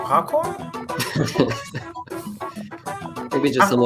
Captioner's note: laughter